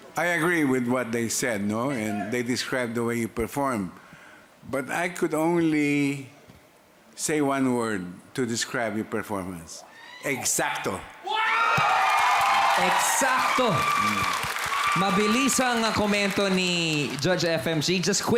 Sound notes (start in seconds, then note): 11.2 loud cheering